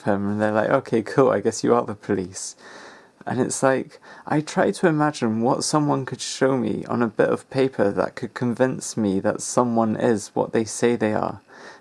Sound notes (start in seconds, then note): none